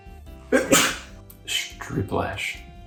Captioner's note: sneezes